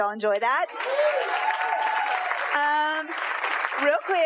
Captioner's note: applause